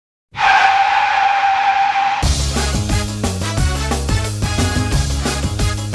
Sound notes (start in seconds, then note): 0.3 car screeching